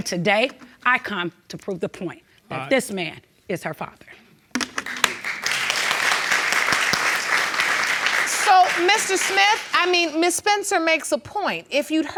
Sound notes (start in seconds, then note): 4.6 audience clapping